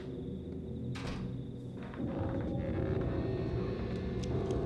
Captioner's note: door opening and closing